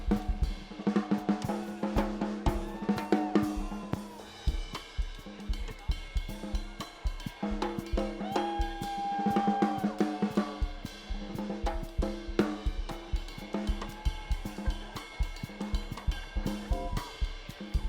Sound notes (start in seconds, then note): 8.2 students cheering and screaming